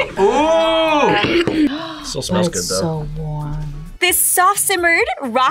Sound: laughs; gasps

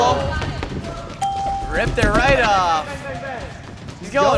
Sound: ding

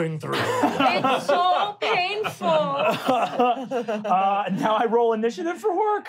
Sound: laughing

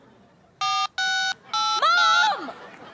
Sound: phone dialing

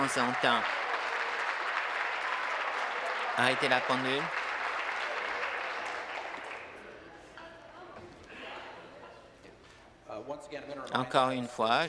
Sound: applause

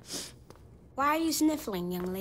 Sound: sniffles

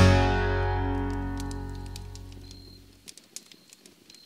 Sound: fire crackles

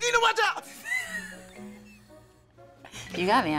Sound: laughs

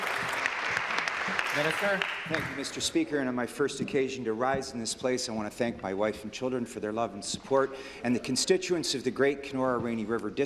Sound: applause

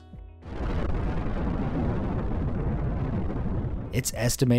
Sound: nuclear bomb booms

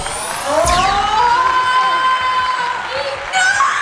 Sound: applauding

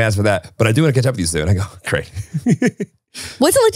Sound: laughing

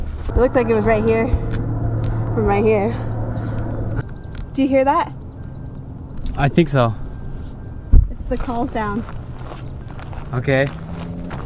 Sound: beeping noise

